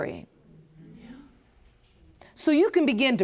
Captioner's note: whispers